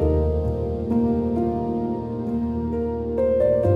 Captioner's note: swirling glass